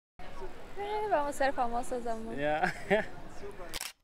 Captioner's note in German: lachen